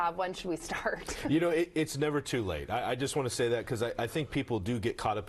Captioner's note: laughs